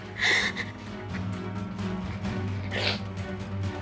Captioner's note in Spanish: sollozos